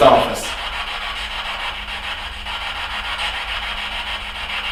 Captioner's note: static buzzing